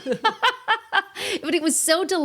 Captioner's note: laughing